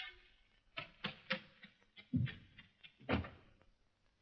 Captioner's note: patting sound; door bumps